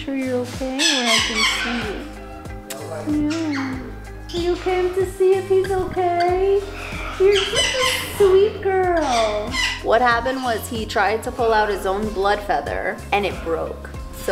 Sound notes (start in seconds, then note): 2.5 kisses